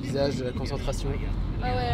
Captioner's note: none